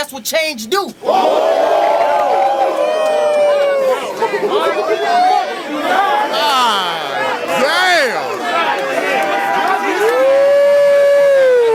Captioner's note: crowd Reaction